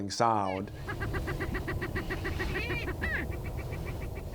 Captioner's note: chickens cackling